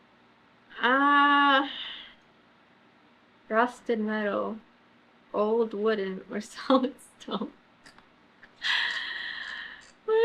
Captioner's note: laughs